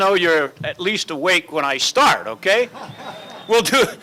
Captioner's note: laughter